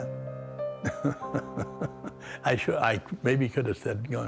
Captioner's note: Verne chuckles